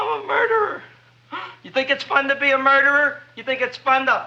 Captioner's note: gasps